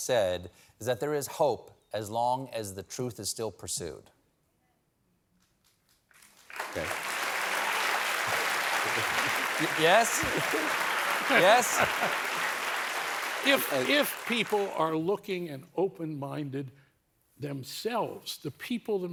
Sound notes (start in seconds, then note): 6.1 applause